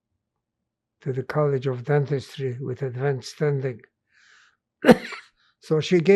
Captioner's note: coughing